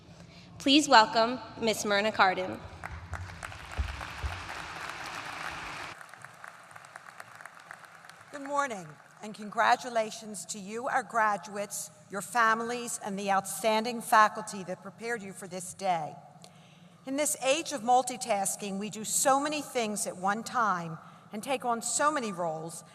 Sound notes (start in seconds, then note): 2.7 applause